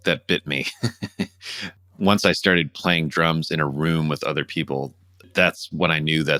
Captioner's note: laughter